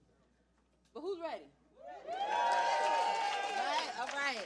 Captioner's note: cheering